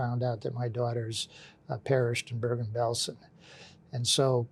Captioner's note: none